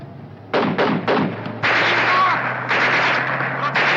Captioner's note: shouting foreign language; guns firing